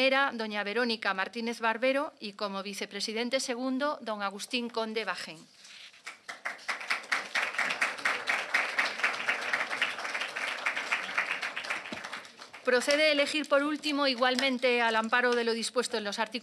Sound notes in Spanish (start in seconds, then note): 5.9 Aplausos